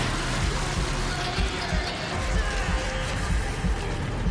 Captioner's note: heartbeat pounding loudly; speaking Latin